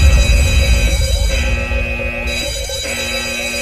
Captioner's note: alarm bells